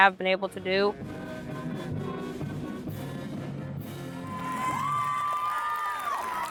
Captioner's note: upbeat band music; audience cheers